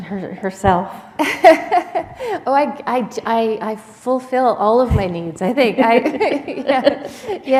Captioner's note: chuckle